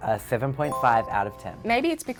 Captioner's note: bell chiming